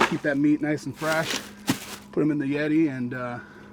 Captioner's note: ice clattering